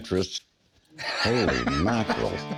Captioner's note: Rick laughing